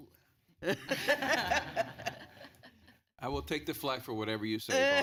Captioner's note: laughter